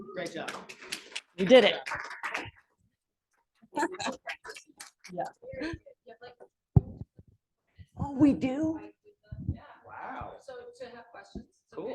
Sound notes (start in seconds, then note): 1.8 audience applauding; 7.6 background chatter